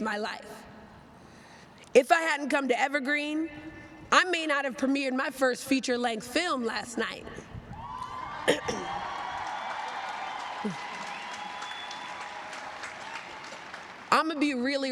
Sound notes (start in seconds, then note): 10.4 cheers and applause